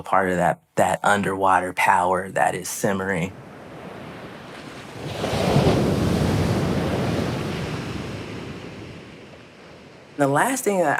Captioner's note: waves surging then crashing